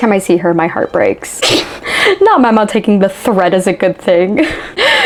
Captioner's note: laughs